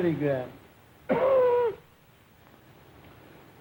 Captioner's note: coughs